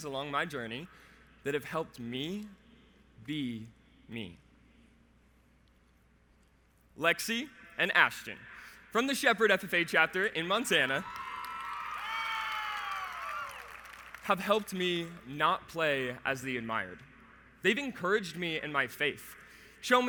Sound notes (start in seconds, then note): 11.0 the audience cheers